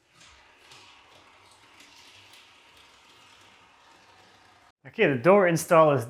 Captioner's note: object clacking continues